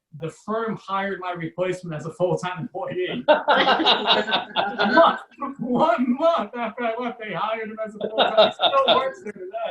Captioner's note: audience Laughs